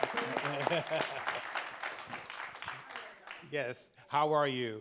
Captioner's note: laughs